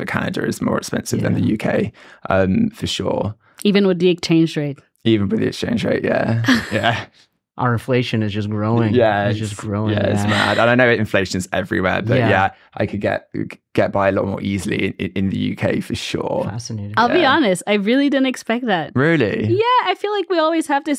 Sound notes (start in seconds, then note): 6.3 laughs